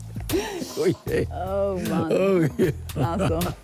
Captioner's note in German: Lachend